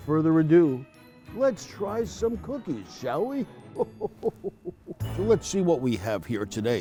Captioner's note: chuckles